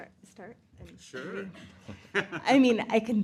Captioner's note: laughs